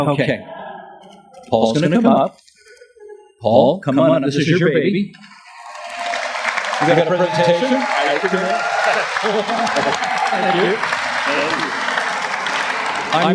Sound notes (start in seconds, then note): 5.1 applause